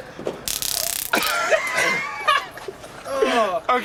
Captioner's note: laughter